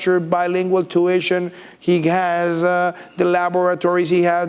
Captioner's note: none